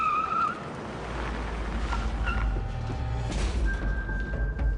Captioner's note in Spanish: Chirrido de neumáticos